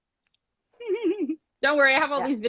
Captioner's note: laughs